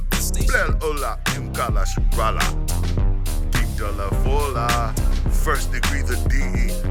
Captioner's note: speaking new language